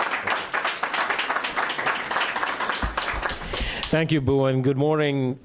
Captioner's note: applause